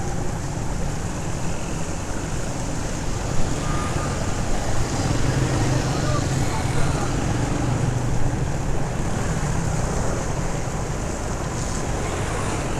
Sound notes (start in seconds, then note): 2.1 motorcycle in water